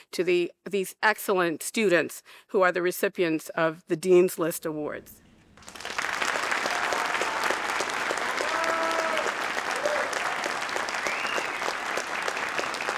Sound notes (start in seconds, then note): 5.4 audience applauding